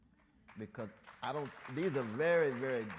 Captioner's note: audience members clap